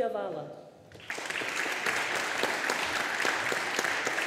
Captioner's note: audience applauding